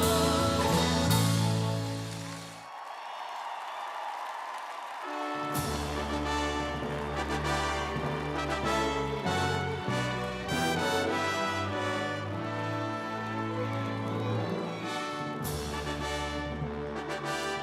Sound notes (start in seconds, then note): 2.6 audience cheering; 5.0 ceremonious music